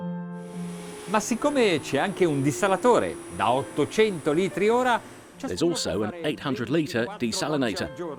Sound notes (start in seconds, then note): 1.6 speaking Italian